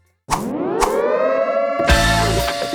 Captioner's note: alarms blaring; energetic music